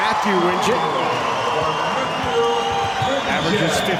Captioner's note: crowd cheers